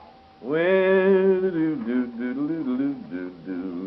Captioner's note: humming